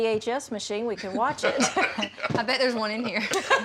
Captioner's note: laughter